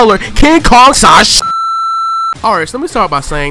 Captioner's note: beep Noise